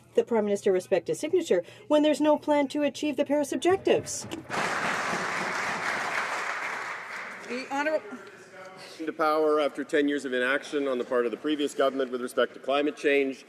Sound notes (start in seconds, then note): 9.5 some Applause